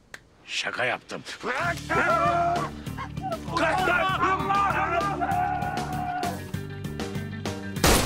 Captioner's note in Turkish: Bağırışmalar